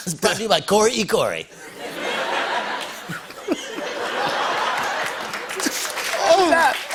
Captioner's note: laughter